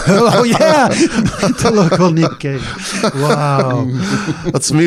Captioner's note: rires